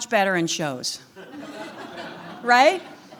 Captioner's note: audience laughing lightly